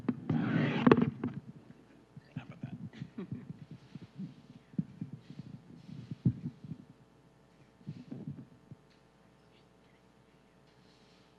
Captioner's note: mic rustling